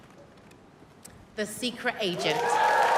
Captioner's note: applause